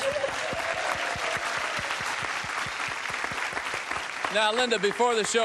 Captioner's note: applause